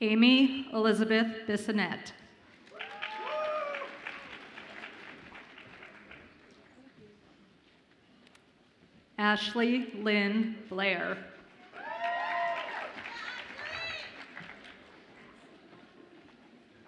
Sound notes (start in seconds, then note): 2.6 audience applauds and cheers; 11.6 audience applauds and cheers